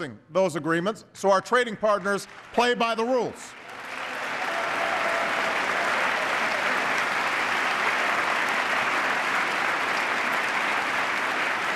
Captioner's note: applause